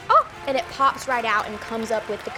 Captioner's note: people applauding